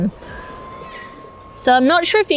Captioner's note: fan whirring